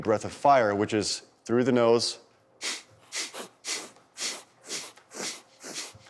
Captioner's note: inhales and exhales rapidly